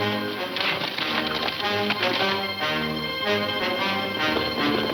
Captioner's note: suspenseful music; horses galloping